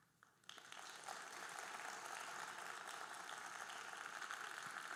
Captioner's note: audience applauding